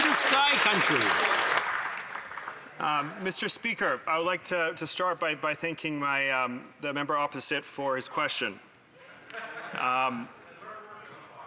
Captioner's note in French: voix de l'interprète